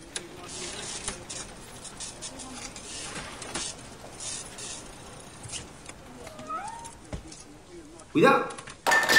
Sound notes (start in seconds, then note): 1.4 printer sounds, telephone rings